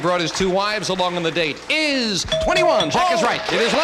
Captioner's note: bell dings